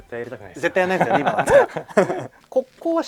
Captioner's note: laughs